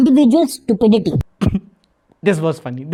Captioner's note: giggles